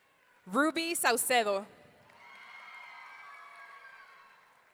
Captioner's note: audience cheering